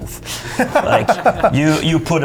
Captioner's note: laughter